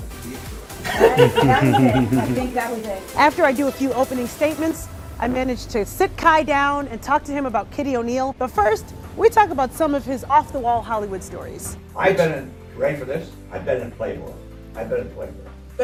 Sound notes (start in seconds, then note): 0.8 laughs